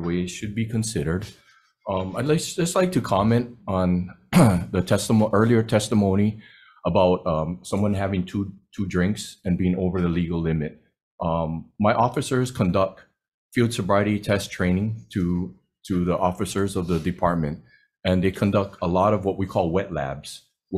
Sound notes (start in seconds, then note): 4.3 clears throat